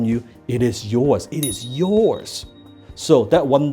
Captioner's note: bell chimes